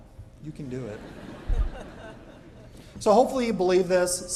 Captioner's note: chuckling